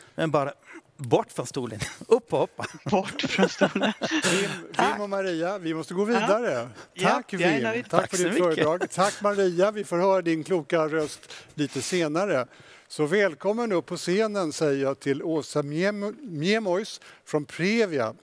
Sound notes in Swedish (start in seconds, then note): 2.6 Skratt